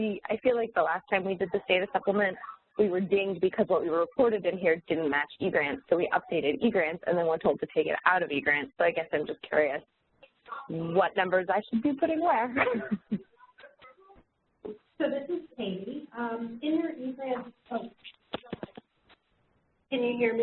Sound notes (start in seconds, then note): 12.5 laughs